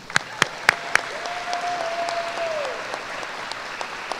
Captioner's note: applause